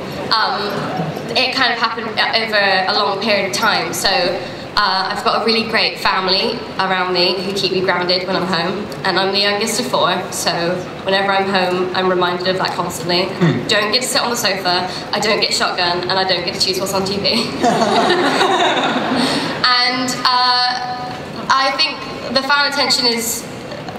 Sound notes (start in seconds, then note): 17.4 laughter